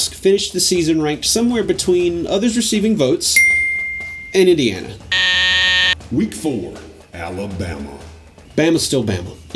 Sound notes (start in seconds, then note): 5.1 buzzing; 6.3 automated Voiceover